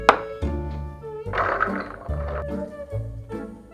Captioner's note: beans dropping